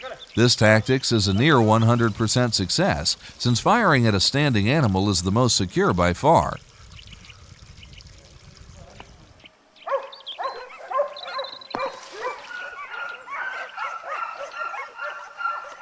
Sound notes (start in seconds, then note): 9.8 dogs barking